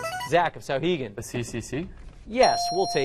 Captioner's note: dinging